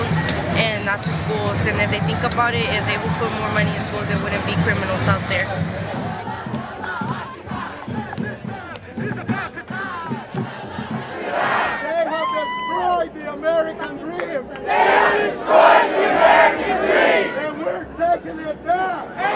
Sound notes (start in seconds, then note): 7.4 chant; 14.6 crowd; 19.1 crowd